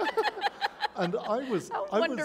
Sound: laughter

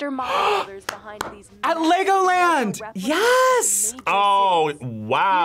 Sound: gasps

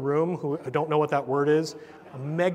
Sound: laugh

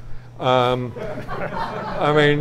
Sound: audience laughs

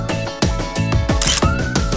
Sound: photo click

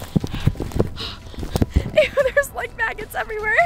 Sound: panting

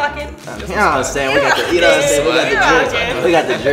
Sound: laughs

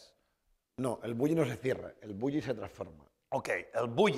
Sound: speaking spanish

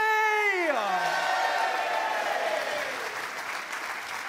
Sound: cheers and applause

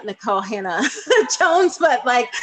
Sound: laughing

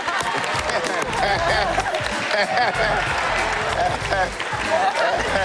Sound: laughter

